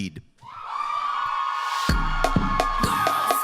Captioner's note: cheering